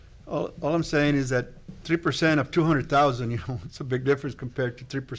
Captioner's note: laughs